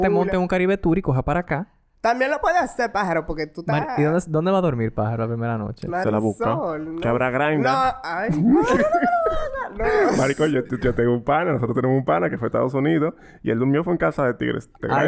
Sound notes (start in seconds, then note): 7.6 laughs